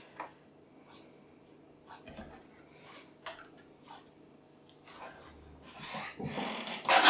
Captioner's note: silent cutting